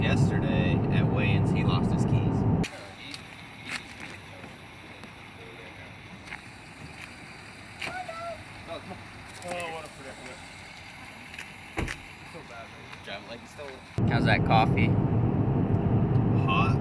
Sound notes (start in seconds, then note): 2.6 chatter